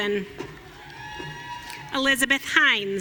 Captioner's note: audience cheering